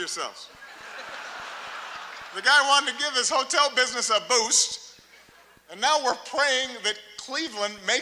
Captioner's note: laughter, applause; laughter